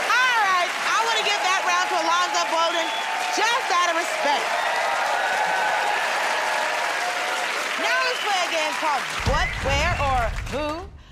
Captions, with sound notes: -Alright, I want to give that round to Alonzo Bodden just out of respect. [ Cheers and applause ] Now, we play a game called...